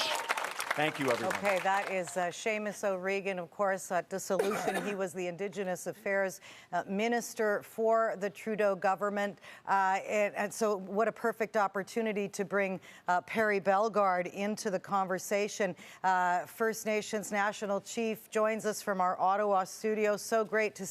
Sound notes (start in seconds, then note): 3.1 applause